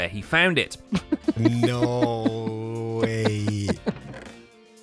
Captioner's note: chuckling